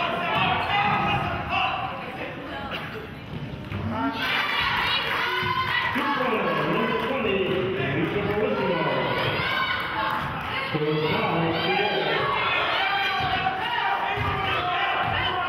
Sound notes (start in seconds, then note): 4.5 cheering and clapping; 8.8 murmurs